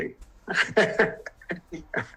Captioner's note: laughing